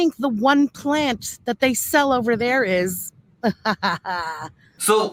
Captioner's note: laughs